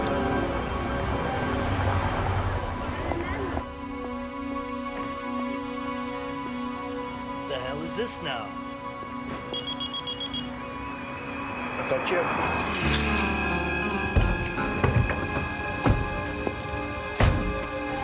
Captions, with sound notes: - What the hell is this now? (timer beeping) - That's our cue.